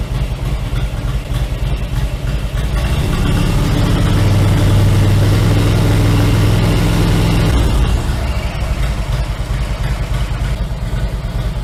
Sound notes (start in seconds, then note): 2.5 revving engine; 7.9 engine idles